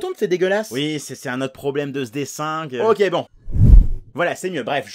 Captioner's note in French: bruitage de transformation